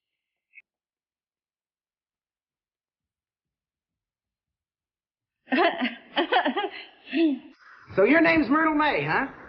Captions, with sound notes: (Myrtle laughing) - So your name's Myrtle Mae, huh?